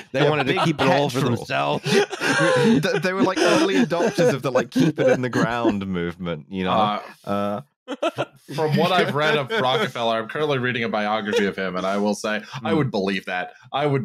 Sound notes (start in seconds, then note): 0.0 laughs; 1.8 laughter